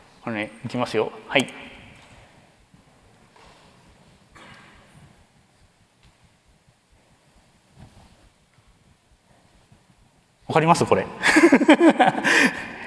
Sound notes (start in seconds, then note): 2.0 silence; 11.2 laughs